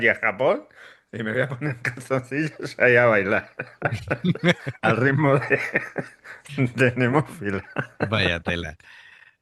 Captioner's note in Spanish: risas